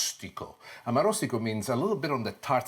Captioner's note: speaks foreign language